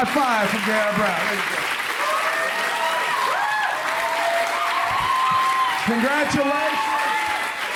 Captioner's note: applause continues